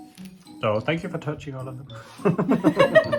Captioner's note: laughs